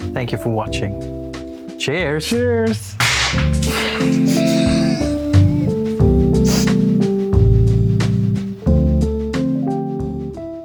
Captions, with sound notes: Thank you for watching. Cheers! [loud party popper pop]